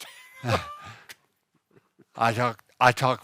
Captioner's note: laughing